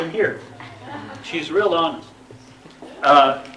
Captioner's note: laughter